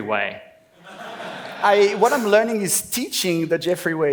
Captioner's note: laughs